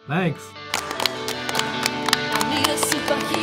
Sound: children clap

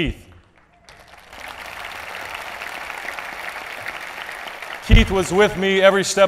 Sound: applause

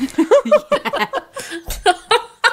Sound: both laughing

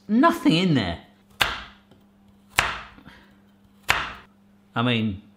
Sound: knife clunking

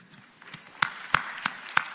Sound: audience claps

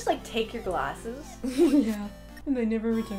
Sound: laughing

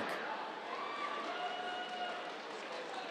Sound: cheers, applause

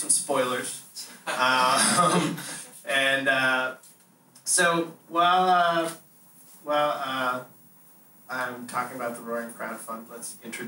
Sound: laughter

